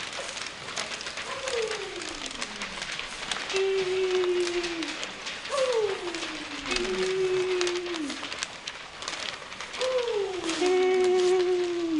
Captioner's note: howls and papers rustling